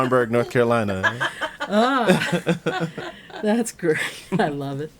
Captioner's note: all laughing